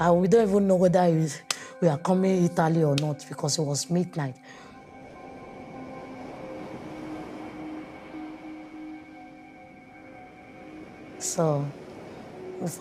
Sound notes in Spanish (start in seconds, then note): 0.9 música reflexiva; 0.9 sonido de agua